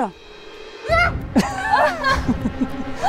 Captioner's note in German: Sie schreit kurz